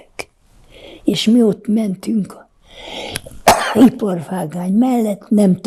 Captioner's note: coughing